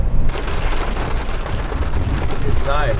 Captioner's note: hail pattering